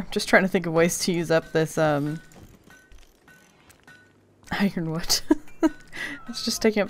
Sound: laughs

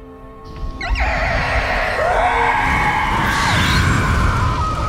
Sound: screaming

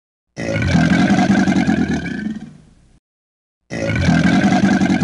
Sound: alligator growling

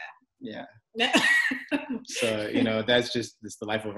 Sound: both laugh

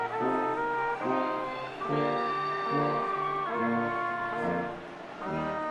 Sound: audience cheers

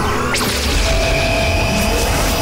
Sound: laser shooting

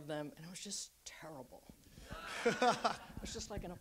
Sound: audience laughs

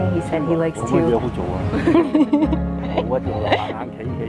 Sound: Cantonese

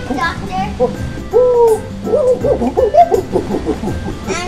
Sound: gorilla sounds

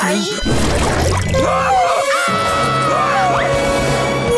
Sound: screaming

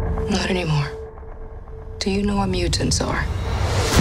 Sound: none

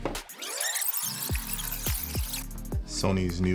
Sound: fast-forward screeching

